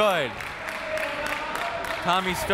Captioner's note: crowd cheers